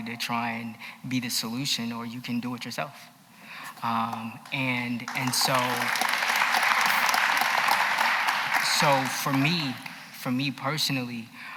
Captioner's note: applause